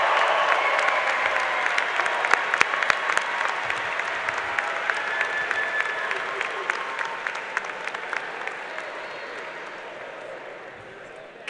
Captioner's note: cheers and applause